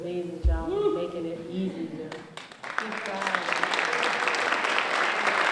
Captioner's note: applause